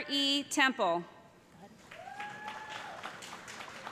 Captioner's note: applause